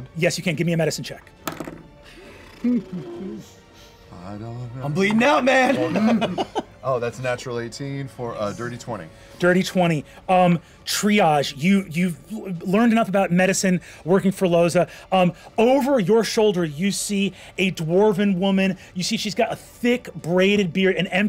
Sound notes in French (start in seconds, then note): 2.3 fait un bruit de pet; 5.6 rire